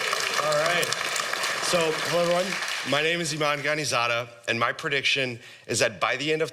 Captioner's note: applause